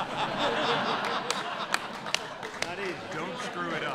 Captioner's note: laughter